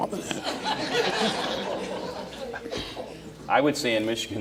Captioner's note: audience laughing